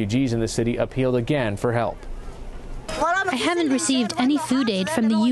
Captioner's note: through translator